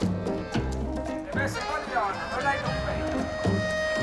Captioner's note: speaking Spanish